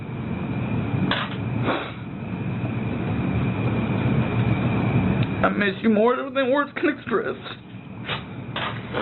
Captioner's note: sniffles